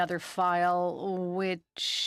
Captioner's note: speaking French